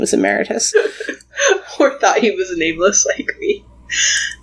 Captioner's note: laughs